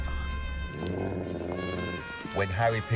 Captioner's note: dog growls